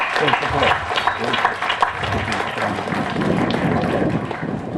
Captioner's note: applause